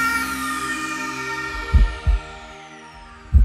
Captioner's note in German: Pulsieren